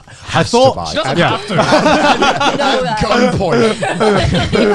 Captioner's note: laughing